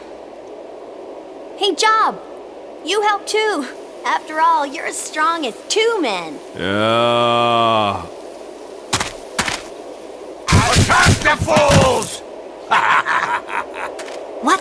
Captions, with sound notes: Hey, Job, you help too! Afterall you're as strong as two men. (Slurs) Yeahhhhhh. Attack the fools! (Cackling laughter)